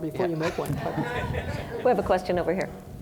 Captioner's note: audience laughing